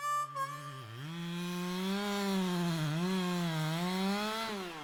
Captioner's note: chainsaw buzzing